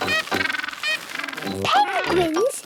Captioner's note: honking